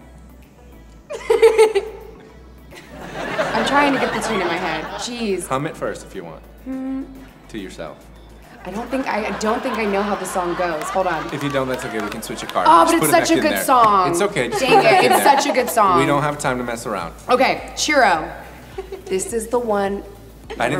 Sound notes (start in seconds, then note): 1.1 laughs; 2.8 audience laughs; 10.8 audience laughing